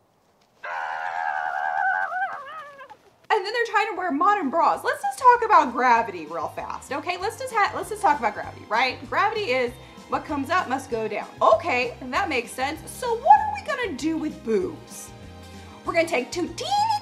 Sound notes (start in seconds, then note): 0.7 screeching